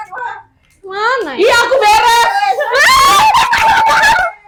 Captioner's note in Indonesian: berteriak